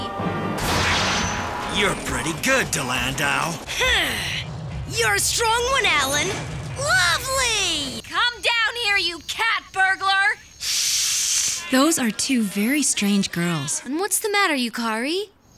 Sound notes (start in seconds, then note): 3.4 growls; 10.4 hissing